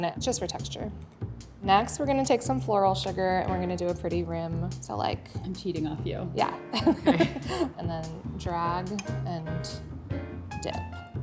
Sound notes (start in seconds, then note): 6.9 laughs